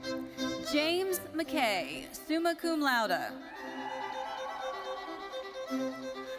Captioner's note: audience cheering